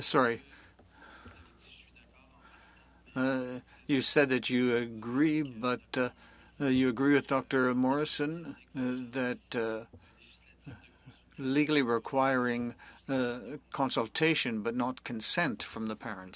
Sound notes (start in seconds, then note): 4.7 speaking French